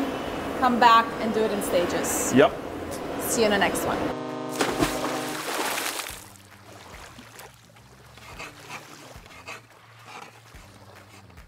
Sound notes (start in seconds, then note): 4.5 water splashing; 5.5 boat horn; 10.0 scribbling sounds